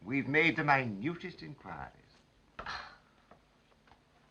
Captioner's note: disgusted sigh